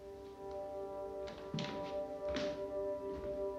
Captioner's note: none